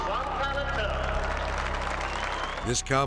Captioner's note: audience applauding